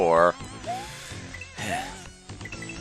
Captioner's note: sigh